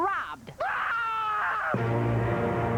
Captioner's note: screaming